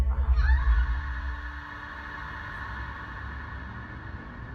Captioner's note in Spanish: Gritos